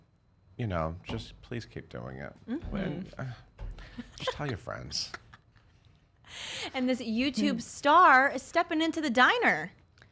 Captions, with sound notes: and just please keep doing it. Just tell your friends. (laughing) - And this YouTube star is stepping into the diner.